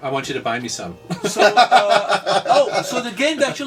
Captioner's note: all laugh